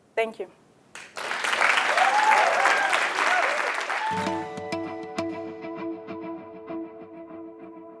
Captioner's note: applause